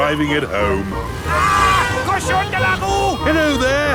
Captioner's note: yells